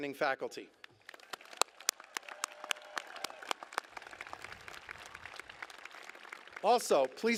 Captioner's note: applause